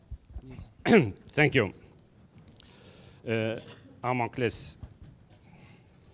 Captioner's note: speaks in foreign language